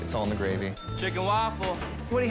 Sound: bell dinging

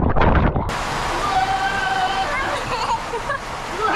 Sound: dad's scream

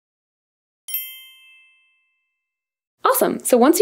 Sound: bell chimes

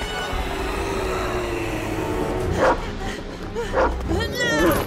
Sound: thud; ghostly moaning; panting

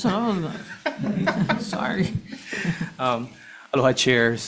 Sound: laughing

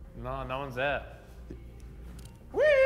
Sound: none

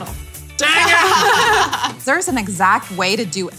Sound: laughter

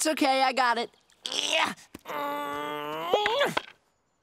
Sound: grunting

